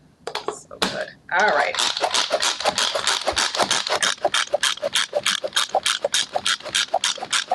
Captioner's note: processor chopping